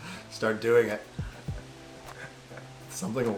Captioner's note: continues laughing silently